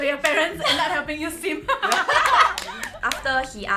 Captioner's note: laughs